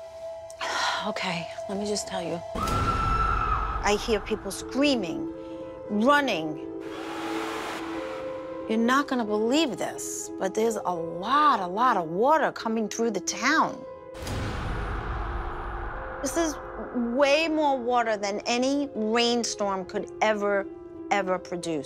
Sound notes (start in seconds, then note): 0.1 sighs; 2.6 woman screams